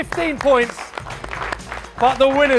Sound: applause

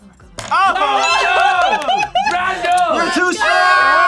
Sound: group laughs

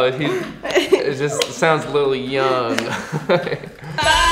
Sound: giggles

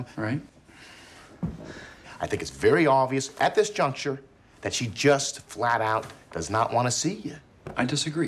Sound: sighs

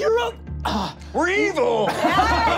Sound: sighs

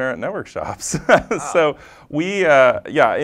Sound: laugh

